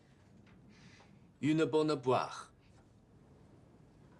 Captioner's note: French